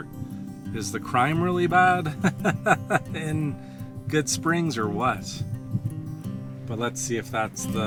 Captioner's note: laughs